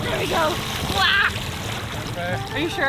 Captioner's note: screams